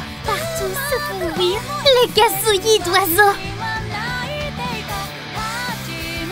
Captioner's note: the chirping of birds